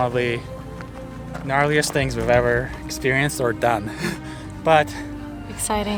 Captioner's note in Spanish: risas